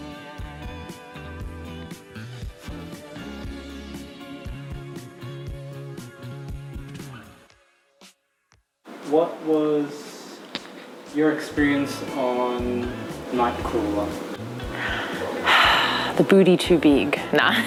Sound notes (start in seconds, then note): 14.4 sighs